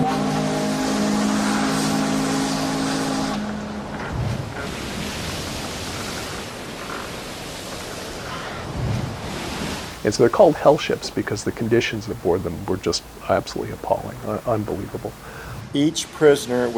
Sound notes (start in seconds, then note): 4.3 waves rolling